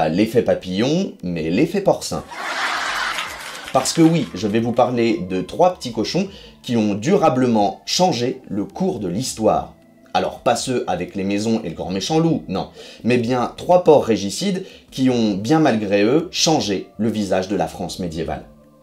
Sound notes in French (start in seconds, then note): 2.2 rires sitcom